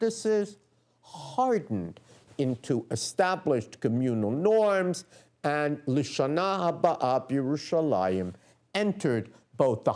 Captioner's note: non-english speech